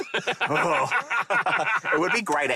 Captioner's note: both laughing